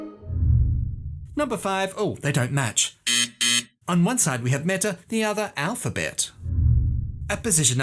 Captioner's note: buzzer